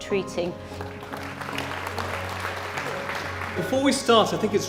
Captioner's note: applause